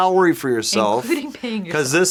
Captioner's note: laughs